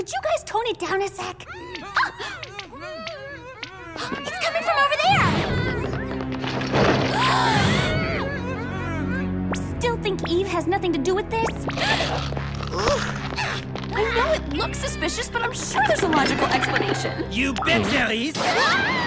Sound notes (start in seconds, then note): 7.1 faint screaming; 10.8 dramatic music; 11.7 gasping